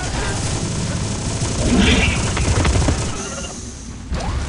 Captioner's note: guns blasting